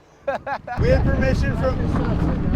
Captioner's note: laughs